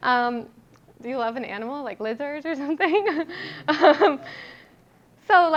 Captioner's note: laughing